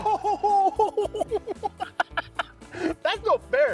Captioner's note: both laughing